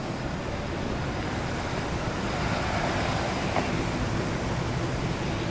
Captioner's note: city Noises